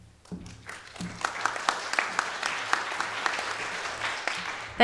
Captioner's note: audience applauding